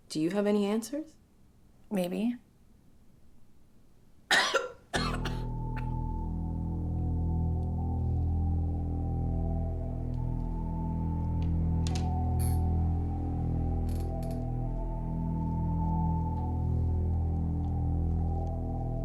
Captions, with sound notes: - Do you have any answers? - Maybe. (Miranda coughing) (suspenseful music)